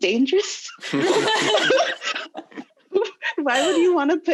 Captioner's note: laughing loudly